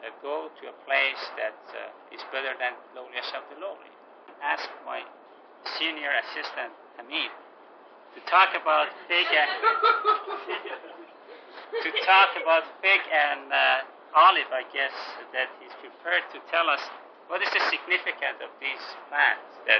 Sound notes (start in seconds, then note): 9.1 laughing